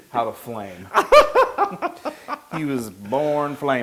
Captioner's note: laugh